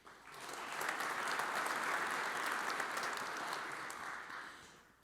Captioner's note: audience applauds